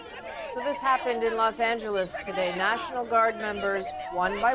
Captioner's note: crowd Noise